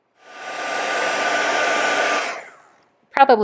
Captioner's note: heat tool blowing